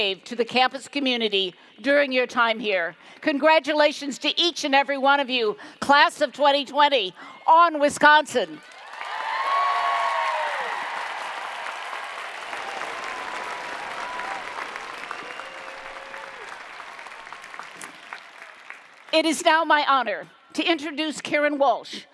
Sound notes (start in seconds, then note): 8.6 cheering and Applause